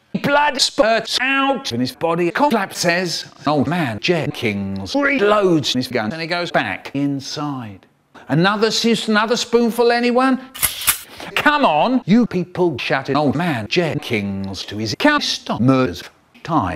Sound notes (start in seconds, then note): 10.6 shotgun reloads